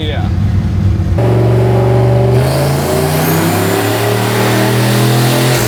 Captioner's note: engine revving loudly